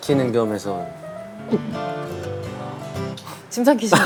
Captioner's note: gulp